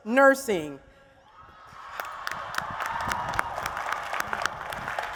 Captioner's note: applause and Cheers